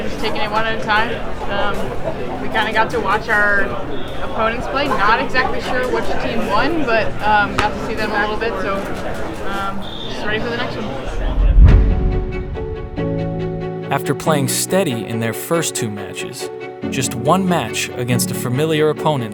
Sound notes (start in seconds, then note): 11.0 tense music; 11.1 audio hit